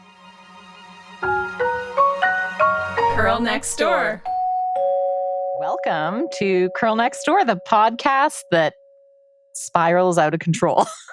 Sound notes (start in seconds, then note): 4.9 intro music; 5.2 sound of doorbell